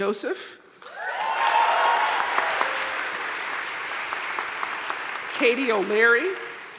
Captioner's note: audience cheering and applauding